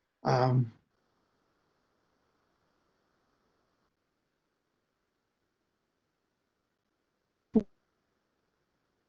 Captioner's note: recording cuts out